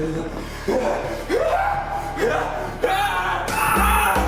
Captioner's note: screaming